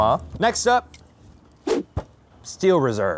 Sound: whoosh

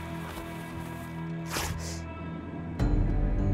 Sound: ripping; tense music

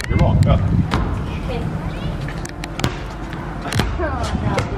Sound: basketball thumps

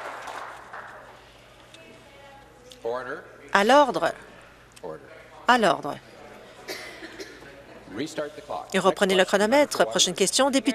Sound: applause

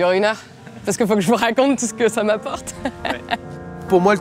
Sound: she laughs

